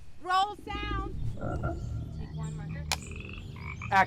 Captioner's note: frogs croaking